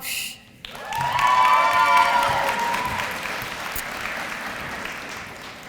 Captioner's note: applause